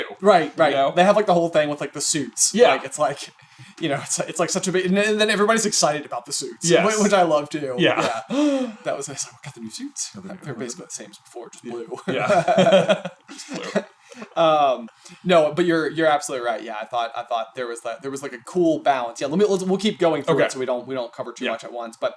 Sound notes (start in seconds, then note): 11.9 laughter